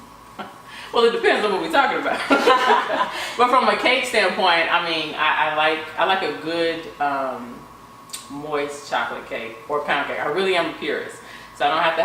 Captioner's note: laughter